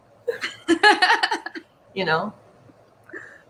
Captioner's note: laughs